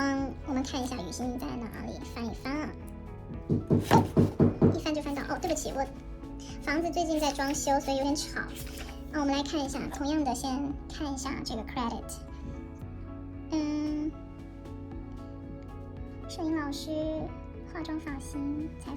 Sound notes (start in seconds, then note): 3.4 knocking sounds